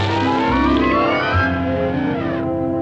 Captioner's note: elephant trumpets